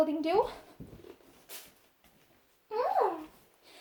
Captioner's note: happy vocal sound